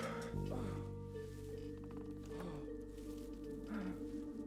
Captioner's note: mr. grey grunting